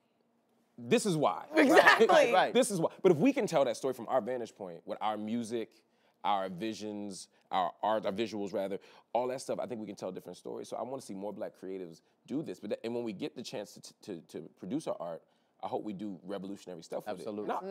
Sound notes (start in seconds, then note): 1.6 laughs